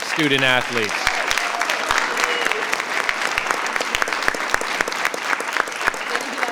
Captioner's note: audience applauding; audience cheering